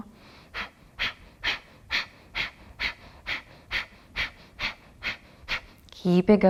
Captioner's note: repeated sharp exhalations